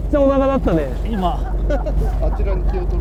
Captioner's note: laughs